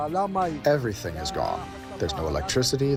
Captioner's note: through translator